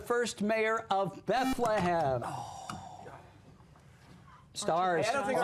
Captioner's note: buzzer